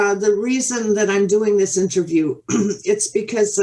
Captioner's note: clears throat